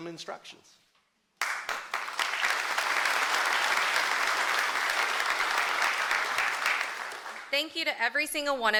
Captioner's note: applause